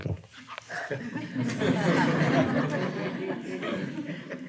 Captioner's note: audience laughing